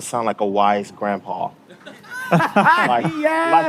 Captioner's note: laughing